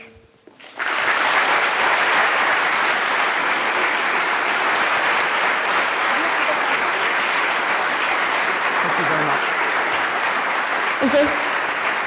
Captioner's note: applause